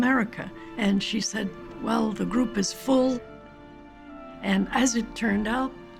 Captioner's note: none